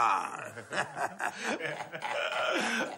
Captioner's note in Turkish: gülüyorlar